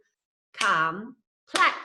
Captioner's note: clapping